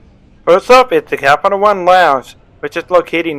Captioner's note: voiceover